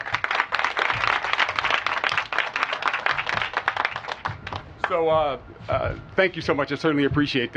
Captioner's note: applause